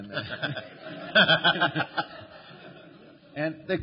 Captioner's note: laughter